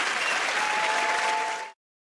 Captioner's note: cheers and applause